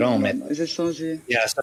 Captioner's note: answers in French language